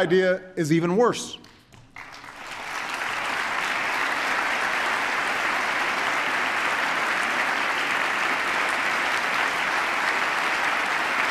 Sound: applause

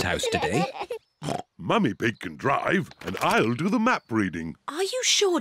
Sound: snorts

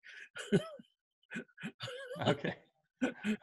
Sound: laughs

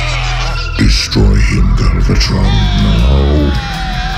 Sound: low rumble

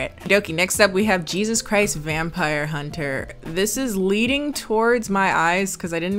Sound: none

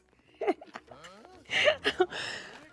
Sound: laughing

